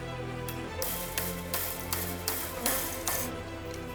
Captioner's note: tapping